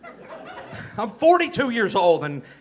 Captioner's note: audience laughing